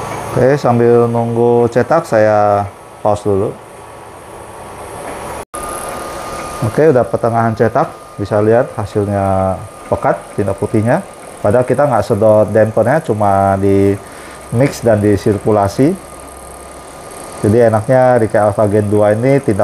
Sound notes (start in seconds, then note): 0.0 printer machine noise